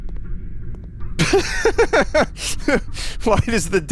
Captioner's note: laughs